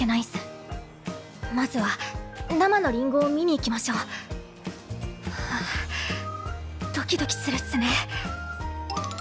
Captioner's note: sigh